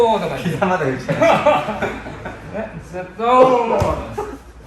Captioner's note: laughter